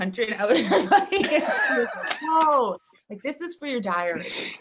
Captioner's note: all laughing